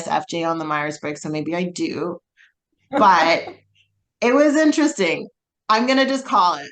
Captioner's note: laughs